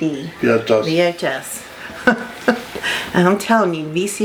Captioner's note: laughs